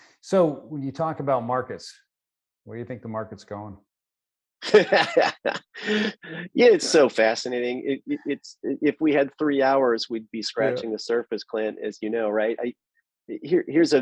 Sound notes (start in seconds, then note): 4.8 laughs